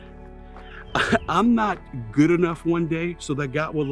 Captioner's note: chuckles